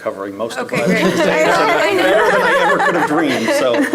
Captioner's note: audience laughing